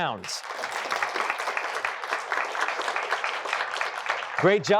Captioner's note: applause